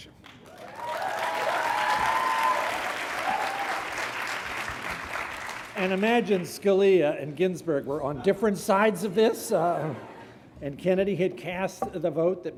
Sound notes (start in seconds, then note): 0.0 graduates clapping; 0.5 graduates cheering